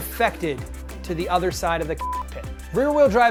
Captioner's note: beep